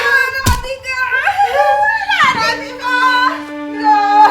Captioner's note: crying